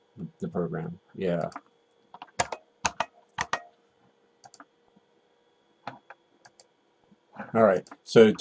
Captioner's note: typing